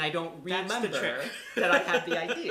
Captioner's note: laughter